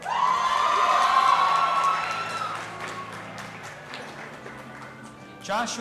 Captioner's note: audience applauding and cheering